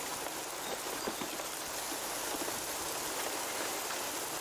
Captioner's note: sounds in the forest